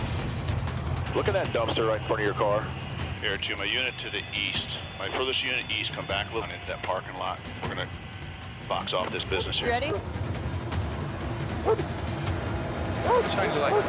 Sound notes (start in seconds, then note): 4.4 jangling; 9.8 dog barking